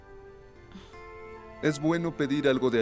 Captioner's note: Faith resopla